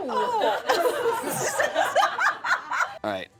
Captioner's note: laughter